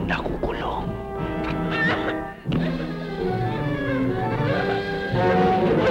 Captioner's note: whimpers